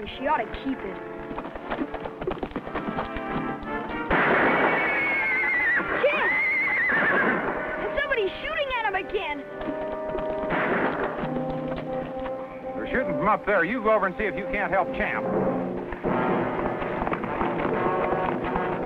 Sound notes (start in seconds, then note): 3.9 gun fires; 4.1 Champ whinnies; 10.4 gun fires; 16.1 dramatic music